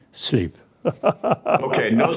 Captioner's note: laughs loudly